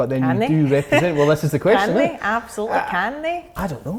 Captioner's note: laughing